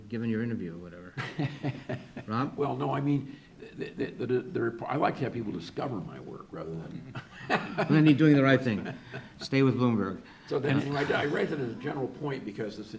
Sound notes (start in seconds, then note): 1.2 laughs; 7.0 laughs